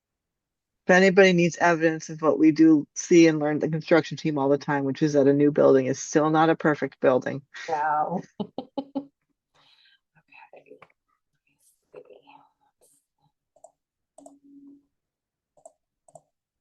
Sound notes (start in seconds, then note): 10.2 muttering; 14.7 silence